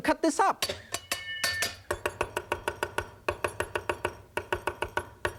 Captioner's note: cleaver clanking and chopping